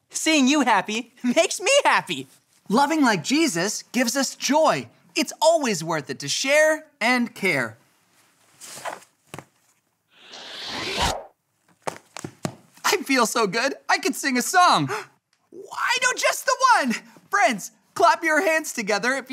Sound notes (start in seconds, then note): 10.2 air whooshing; 15.4 gasps